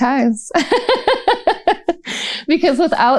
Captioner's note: laughter